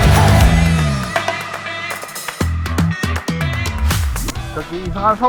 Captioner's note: applause